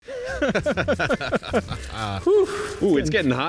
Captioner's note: laughs